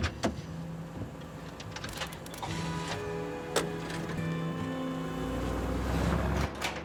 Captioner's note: door opens; soft instrumental music